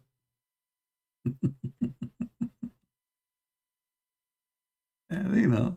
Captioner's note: Ketawa